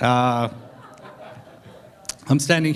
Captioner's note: laughter